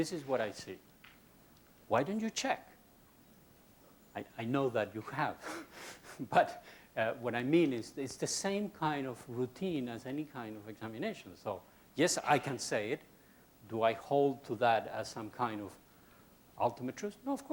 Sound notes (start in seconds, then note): 5.9 laughs